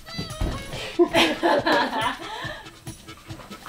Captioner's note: both laughing